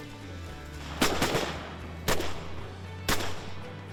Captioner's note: gunfire